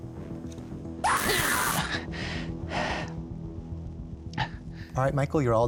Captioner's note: electricity crackles; recorded scream